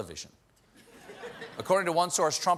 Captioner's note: laughter